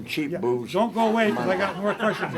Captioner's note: laughter